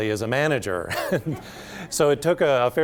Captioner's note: laughter